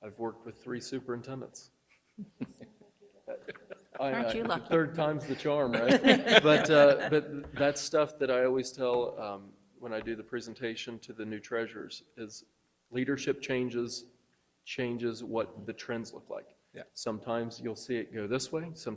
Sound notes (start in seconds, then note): 6.2 group laughing